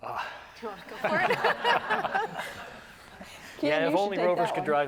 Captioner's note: laughs